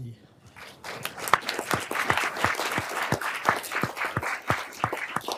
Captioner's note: everyone applauding